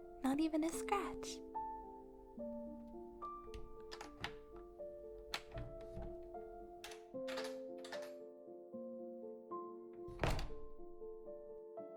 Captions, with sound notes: Not even a scratch. (door opens, closes)